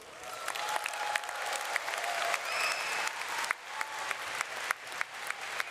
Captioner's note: audience cheers and applauds